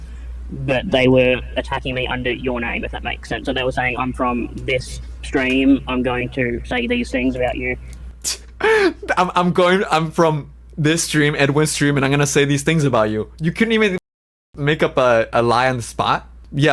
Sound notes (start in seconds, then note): 8.1 laughs